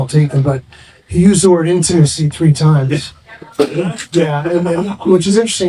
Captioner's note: laughing